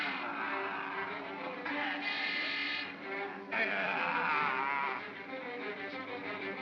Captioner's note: Stan & Ollie whimper; suspenseful music; Bogeyman growls; suspenseful music